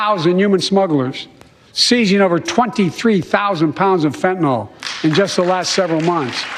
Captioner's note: applause